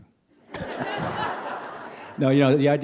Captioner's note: laughter